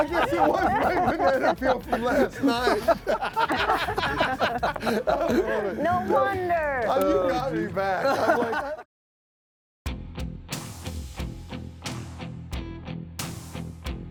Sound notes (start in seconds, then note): 2.9 everybody laughing; 9.8 mellow rock music